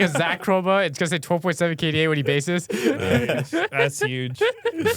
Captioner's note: laughs; laughs